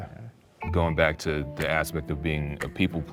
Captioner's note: clock ticking